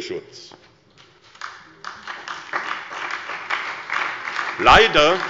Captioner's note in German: Beifall bei der SPD